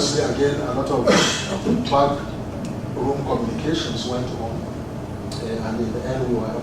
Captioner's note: cough